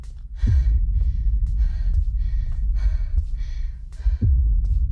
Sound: exhausted breathing

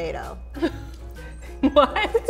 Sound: laughing

